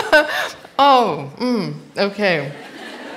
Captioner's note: laughter